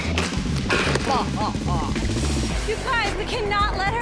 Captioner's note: evil laughing